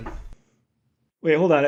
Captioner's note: door knocking